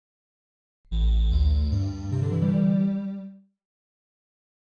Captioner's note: computer Start-Up SFX